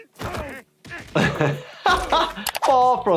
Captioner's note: laughing